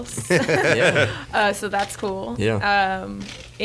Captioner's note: laughs